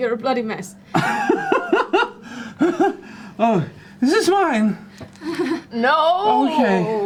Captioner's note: panicked laughter